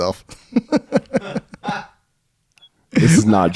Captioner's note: laughing